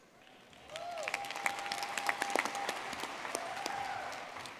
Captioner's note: audience clapping